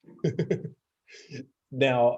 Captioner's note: laughing